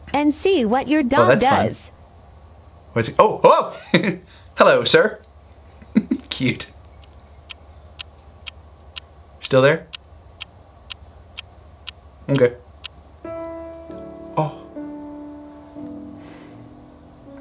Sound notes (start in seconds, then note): 5.8 laughs; 7.5 clock ticking; 13.2 somber piano music